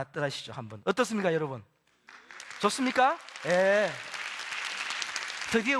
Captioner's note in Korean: 박수